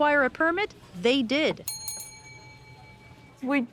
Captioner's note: bell dings